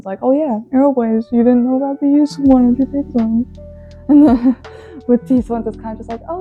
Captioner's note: laughs